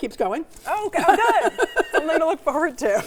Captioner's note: laughing